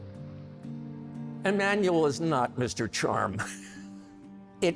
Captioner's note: chuckles